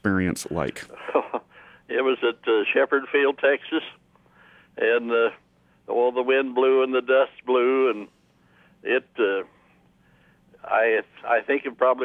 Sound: laughs

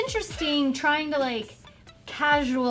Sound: beeping

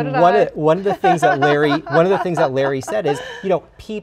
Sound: laughs

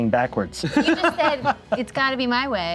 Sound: laughs

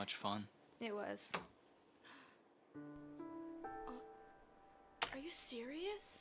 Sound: light switch clicks

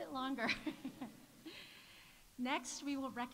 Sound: laughs

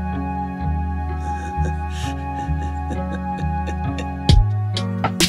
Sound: kenny chuckles

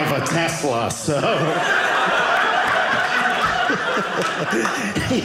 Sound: audience laughing

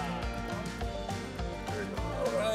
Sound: group applauds

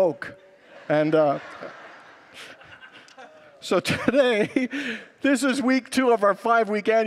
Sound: congregants laugh

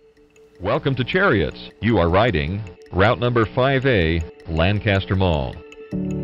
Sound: bus announcement

